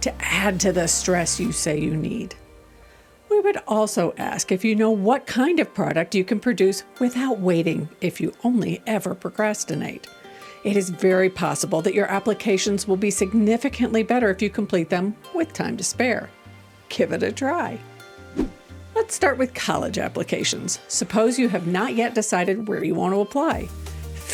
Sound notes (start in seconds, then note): 18.1 gentle music; 18.3 transition whooshing